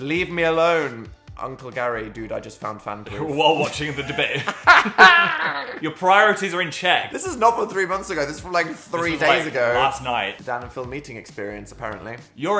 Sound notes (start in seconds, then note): 3.6 Dan and Phil laughing